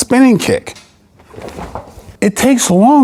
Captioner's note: air whooshing